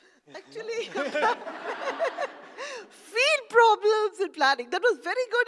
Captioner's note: laugh